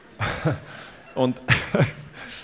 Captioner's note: laughter